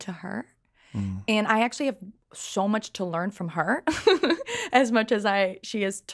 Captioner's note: laughs